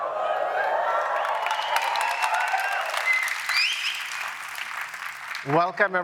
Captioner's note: cheering, applause